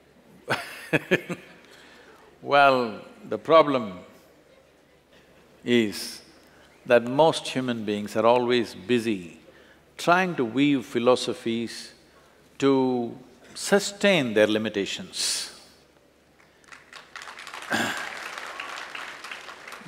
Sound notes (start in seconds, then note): 2.2 laughs; 16.4 applause